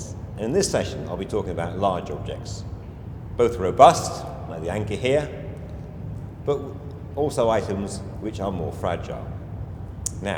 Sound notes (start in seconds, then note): 4.2 hand taps